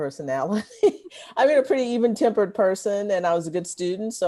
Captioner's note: laughter